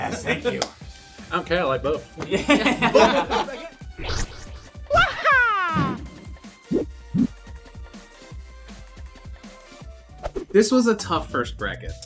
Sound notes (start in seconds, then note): 2.2 laughter; 4.8 wah-haaaah!